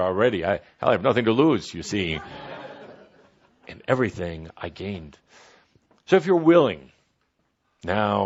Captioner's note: laughter